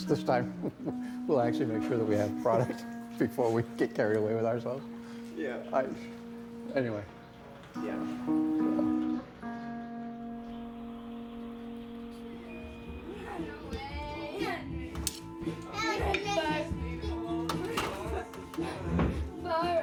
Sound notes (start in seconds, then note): 13.5 children chattering